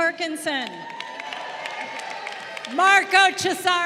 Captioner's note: crowd cheering